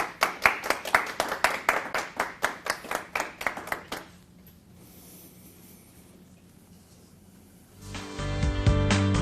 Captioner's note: applause